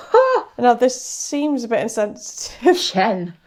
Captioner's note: scoffs